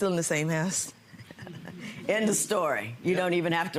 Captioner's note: laughs; audience laughing